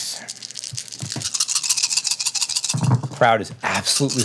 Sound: dice rattling

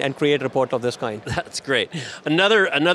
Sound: chuckles

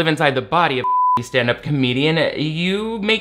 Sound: beep

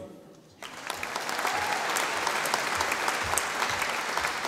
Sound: audience applauding

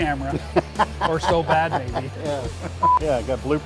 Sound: beep

